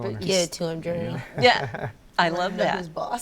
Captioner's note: laughs